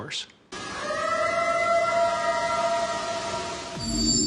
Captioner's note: eerie howl